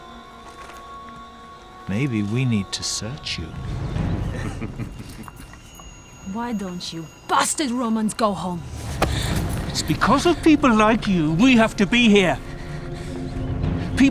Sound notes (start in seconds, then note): 4.2 men chuckle